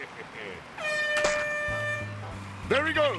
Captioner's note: air horn blows